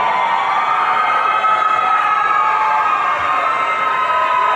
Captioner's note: audience cheering